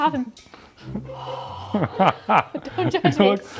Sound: breathing

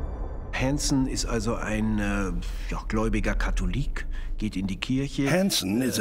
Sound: speaking German

